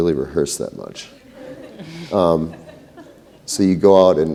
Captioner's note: laughter